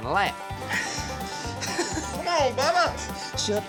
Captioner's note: panting